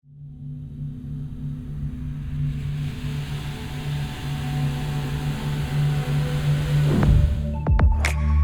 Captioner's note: fade in sound